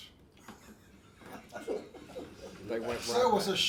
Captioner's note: laughs